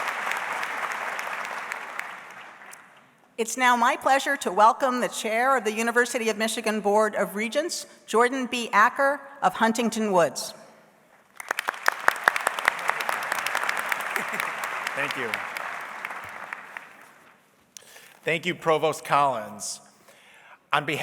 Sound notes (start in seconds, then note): 11.3 audience applauds